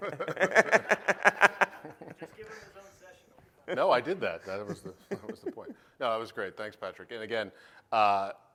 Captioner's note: laughter